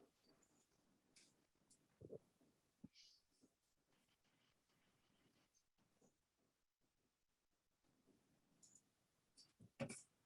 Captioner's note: short silence